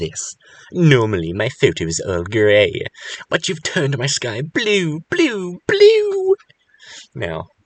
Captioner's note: Reads text in weird Shuttah voice